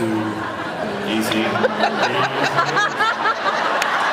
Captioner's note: laughs